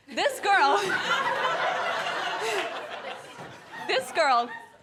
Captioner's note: guests laughing